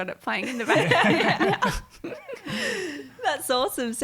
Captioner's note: all laughing